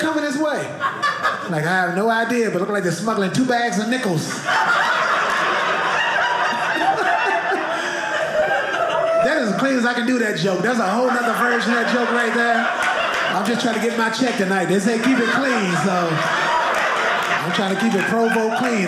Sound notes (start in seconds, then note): 4.5 audience laughing